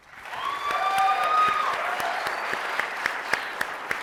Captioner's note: audience cheering